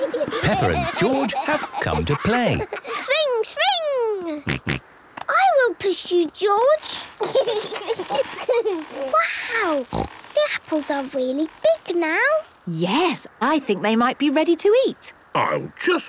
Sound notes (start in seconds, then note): 0.0 laughter; 4.8 snorting; 6.8 kids giggling